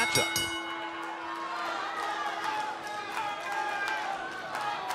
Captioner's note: bell ringing; crowd cheering